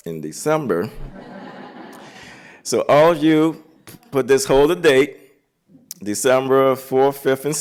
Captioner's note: laughter